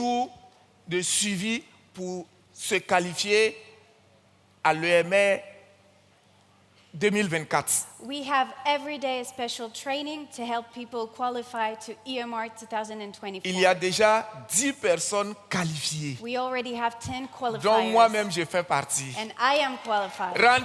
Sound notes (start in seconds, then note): 13.7 continues in French; 18.1 continues in French; 19.6 audience cheers and claps; 20.4 continues in French